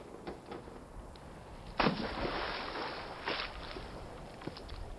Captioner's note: splashing